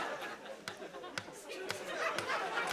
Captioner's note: laughter; tapping; laughter